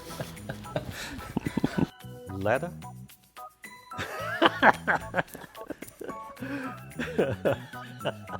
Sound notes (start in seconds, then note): 3.6 laughs